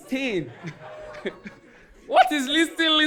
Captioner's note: audience laughing